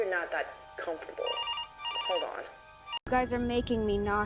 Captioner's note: phone ringing